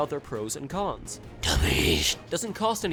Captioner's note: demonic voice: duh beesh